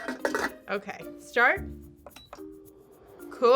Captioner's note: beep